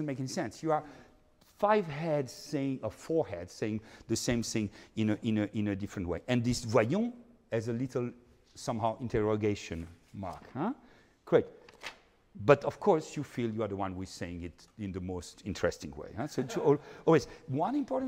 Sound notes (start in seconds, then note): 6.9 speaking in foreign language